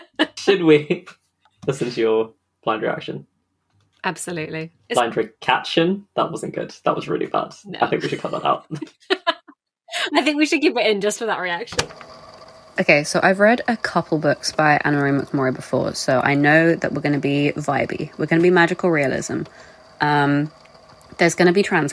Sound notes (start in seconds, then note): 7.9 laughing; 11.5 tape recorder clicks on